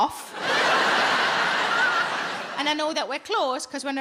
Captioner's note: audience laughs